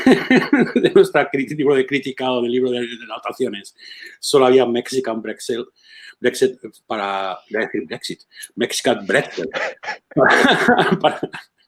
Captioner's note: laughs